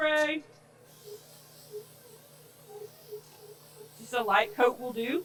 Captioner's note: spray whooshing